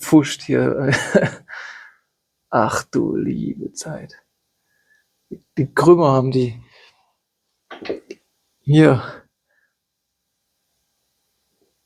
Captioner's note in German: gelächter